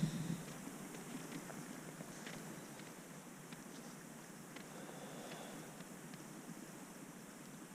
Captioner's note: goat scritching noises